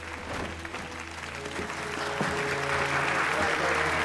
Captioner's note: audience applauding